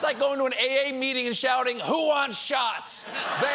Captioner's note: laughter